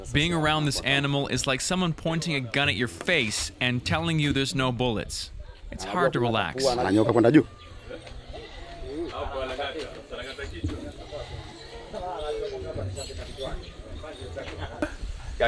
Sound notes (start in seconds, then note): 6.6 speaks in foreign language